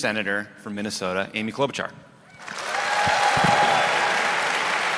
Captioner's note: applause